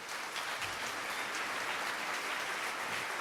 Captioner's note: crowd Clapping